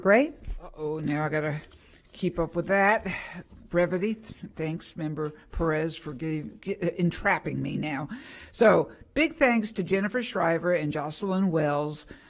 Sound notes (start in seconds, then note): none